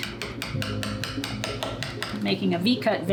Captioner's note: tapping